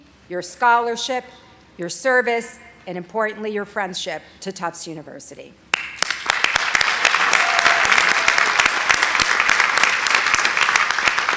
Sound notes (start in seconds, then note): 5.7 audience applauding